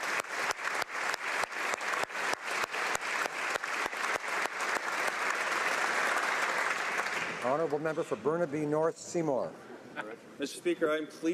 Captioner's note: applause